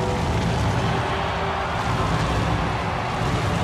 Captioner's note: pyro roaring